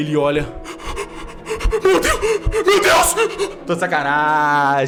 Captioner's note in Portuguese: respiração ofegante